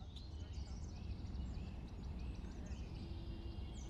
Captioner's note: birds chirp